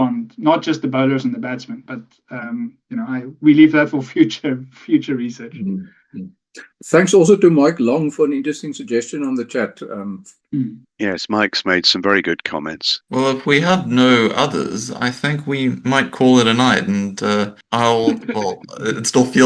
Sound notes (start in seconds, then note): 17.9 laughing